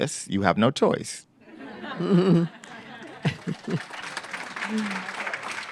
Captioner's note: laughter, applause